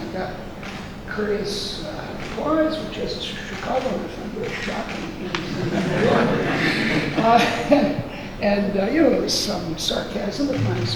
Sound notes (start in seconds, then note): 5.5 laughing drowns out speaker